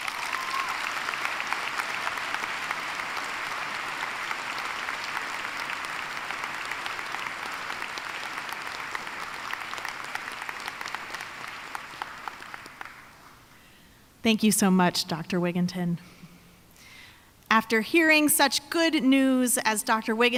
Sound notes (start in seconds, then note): 4.7 applause